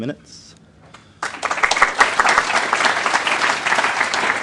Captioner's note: applause